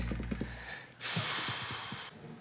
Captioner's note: sighs